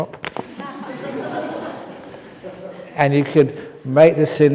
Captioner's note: laughs